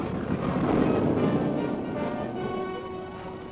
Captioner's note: boat rumbling; tense music